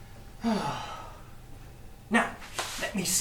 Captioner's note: sigh